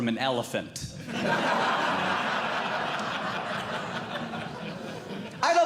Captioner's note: audience Laughing